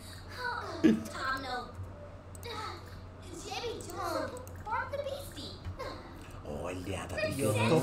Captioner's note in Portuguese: Sims conversam